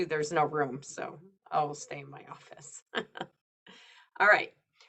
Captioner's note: chuckles